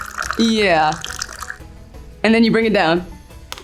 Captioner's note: tea trickling